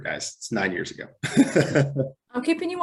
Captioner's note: laughs